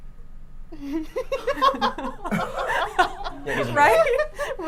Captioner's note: everyone laughing